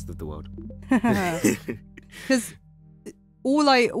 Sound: both laughing

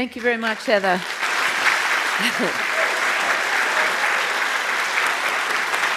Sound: applause

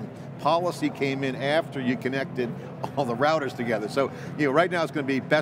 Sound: none

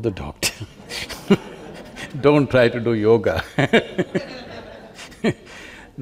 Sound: laughter

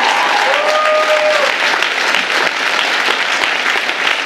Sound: audience applauding

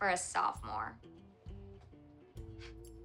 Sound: scoffs

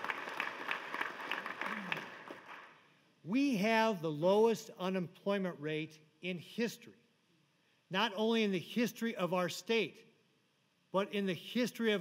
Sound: applause

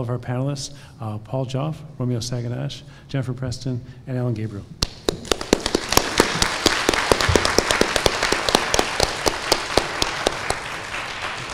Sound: applause

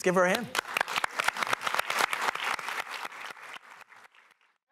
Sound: applause

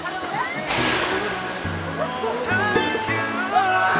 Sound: splash

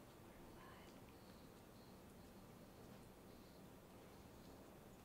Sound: whispering

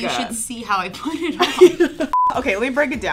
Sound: both laughing

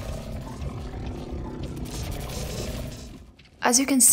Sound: gurgling; shots

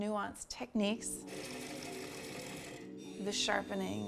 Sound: lathe buzzing

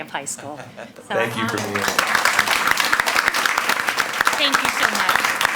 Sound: all applaud

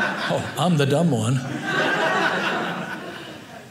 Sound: audience laughing

